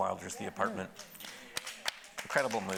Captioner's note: audience applauding